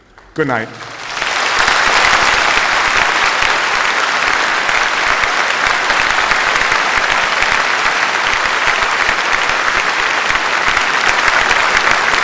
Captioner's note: applause